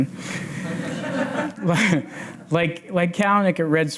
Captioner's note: audience laughs